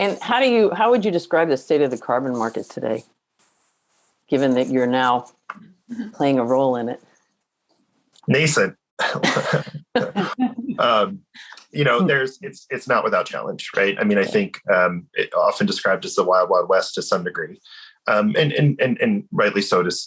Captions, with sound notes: - And how would you describe the state of the carbon market today, given that you're now playing a role in it? - Basic. (laughs) It's not without challenge, I mean, I think it often described as the "Wild Wild West" to some degree and rightly